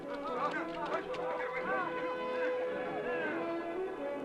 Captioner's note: chatter